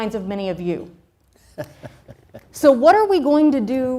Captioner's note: laughs